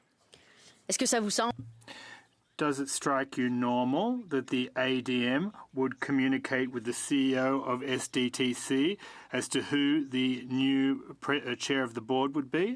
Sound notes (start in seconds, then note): 6.7 speaking French